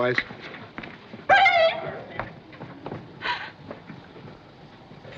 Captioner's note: gasps